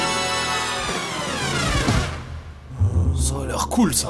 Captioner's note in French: râles